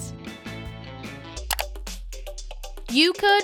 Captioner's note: clicking